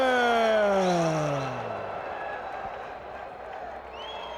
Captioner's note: crowd cheering